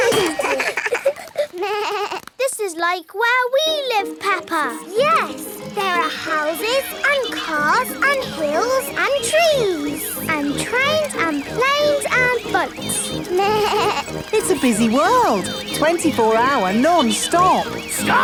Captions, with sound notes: (ALL LAUGH) This is like where we live, Peppa! Yes, there are houses and cars and hills and trees. And trains and planes and boats! (BLEATS) It's a busy world. 24 hour, non-stop!